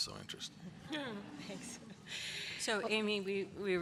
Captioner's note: laughter